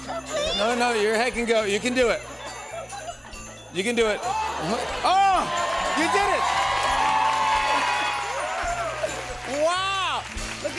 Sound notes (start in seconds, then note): 4.2 cheers and applause